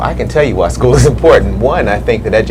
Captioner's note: laughs